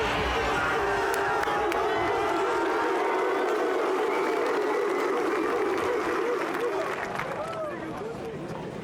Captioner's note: applause and cheers